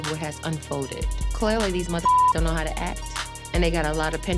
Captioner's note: beep